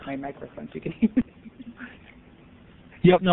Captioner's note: laughs